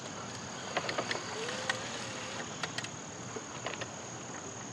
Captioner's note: wheelchair whirring